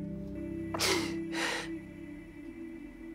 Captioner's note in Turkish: Merve ağlıyor